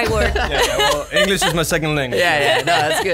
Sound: laughs

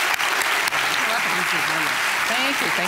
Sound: applause; indistinct chatter

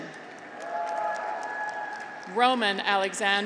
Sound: graduates cheer

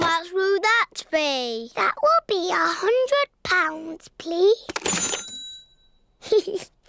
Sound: dings; giggles

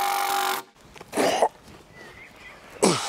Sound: groaning

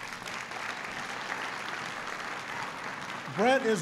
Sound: applause

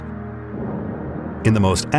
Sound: lightning clapping

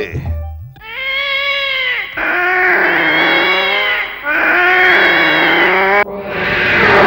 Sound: yowling

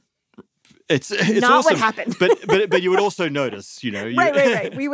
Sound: laughs

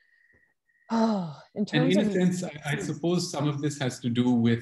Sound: sighs

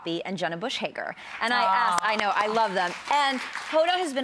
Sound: claps

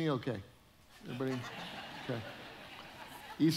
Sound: audience chuckling

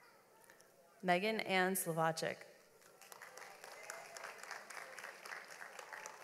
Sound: audience applauds

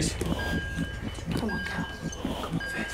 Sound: monitor beeps

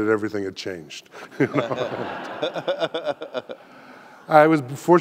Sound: audience laughing

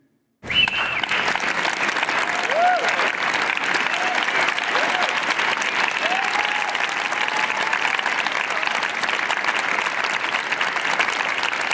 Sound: applause

